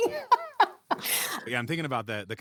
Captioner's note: laughs